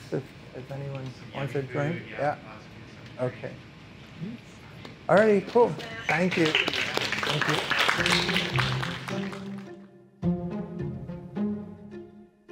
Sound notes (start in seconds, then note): 3.2 speaks faintly; 6.6 attendees clapping; 7.9 intriguing whimsical music